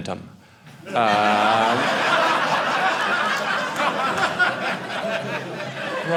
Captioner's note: audience laughing